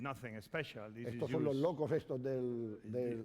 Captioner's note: speaking spanish